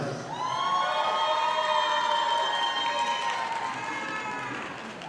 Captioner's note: audience applauding